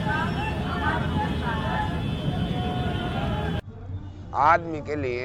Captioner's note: indistinct conversations